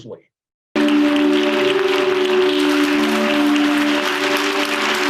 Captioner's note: audience applauding